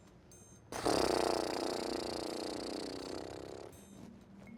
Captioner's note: blows raspberry